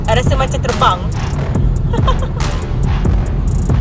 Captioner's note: laugh